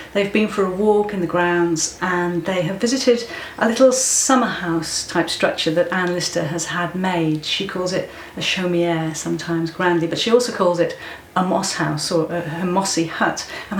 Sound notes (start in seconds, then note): 8.8 French